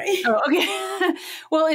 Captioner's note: laughs